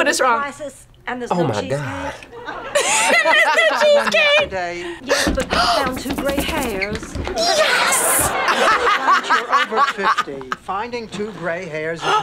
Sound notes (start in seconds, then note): 1.7 laughs; 4.8 both gasp; 8.0 laughs